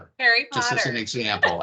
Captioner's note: laughing